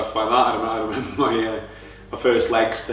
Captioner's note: laughs